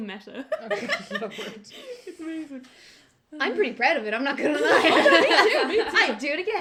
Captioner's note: laughter